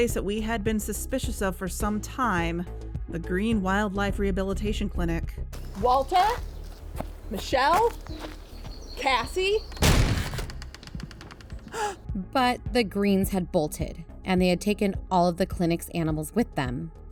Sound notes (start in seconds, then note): 5.5 walking on gravel; 9.5 burst barn door open; 9.7 gasp